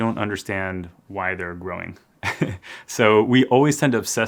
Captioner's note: laughs